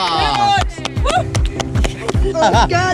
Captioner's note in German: Jubel, Applaus